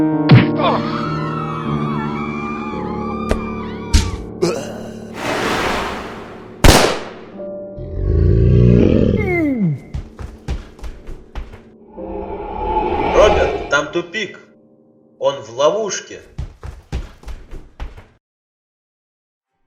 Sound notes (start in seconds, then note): 0.3 blows and screams of people; 3.9 bang and wheeze; 5.2 gunshot; 7.7 growl and groan